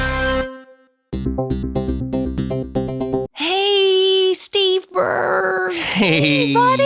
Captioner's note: musical interlude; electronic sounds